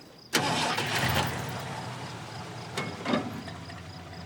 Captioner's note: engine starting